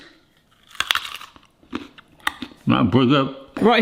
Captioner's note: carrot crunches